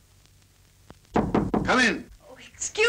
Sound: knocking on door

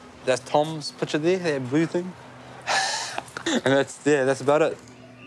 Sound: laughs

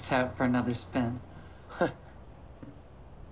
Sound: chuckles dryly

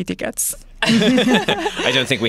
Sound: laughter

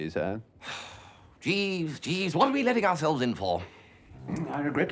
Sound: sighing

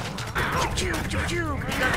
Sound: gunshot Noises

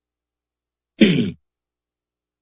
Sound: clears throat

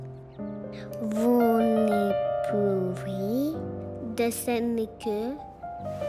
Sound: speaking french

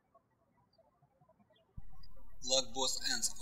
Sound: birds chirping

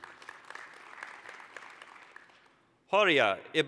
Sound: applause

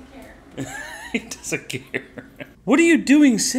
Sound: laughing

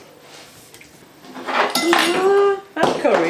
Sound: drops fork

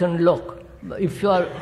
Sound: laughter

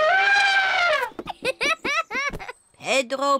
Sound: trumpets; giggles

